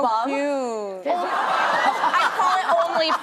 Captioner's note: laughter